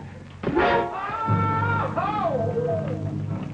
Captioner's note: Squid screams